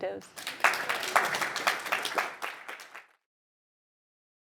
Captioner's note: audience applauds